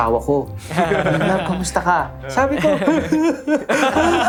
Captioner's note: laughing; sobbing